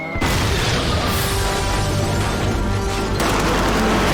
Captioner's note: shell explodes nearby